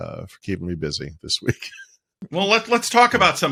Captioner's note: laughing